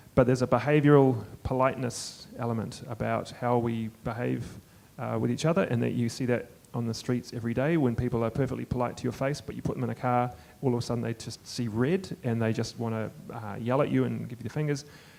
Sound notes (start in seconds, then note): none